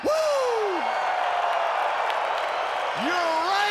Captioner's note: crowd cheering